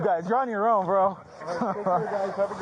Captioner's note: laughs